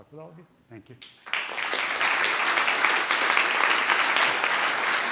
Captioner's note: audience applauding